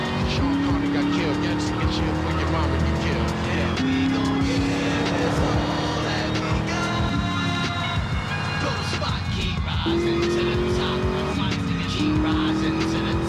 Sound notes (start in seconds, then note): 0.0 sirens wailing